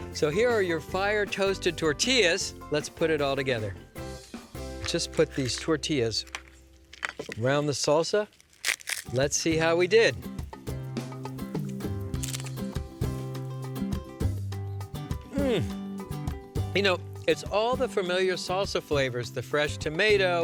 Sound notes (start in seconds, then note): 12.1 crunching